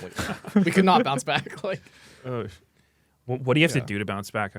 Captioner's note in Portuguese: risos